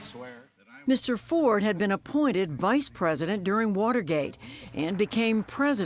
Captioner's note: voice-over